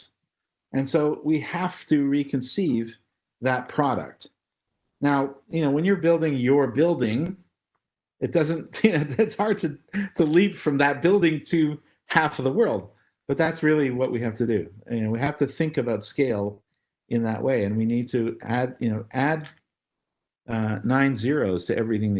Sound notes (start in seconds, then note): 8.6 laugh